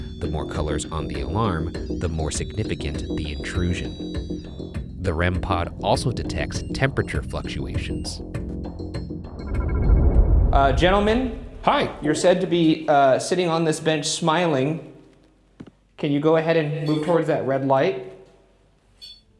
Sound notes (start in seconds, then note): 9.3 image whooshes; 9.4 device chiming; 18.9 device beeping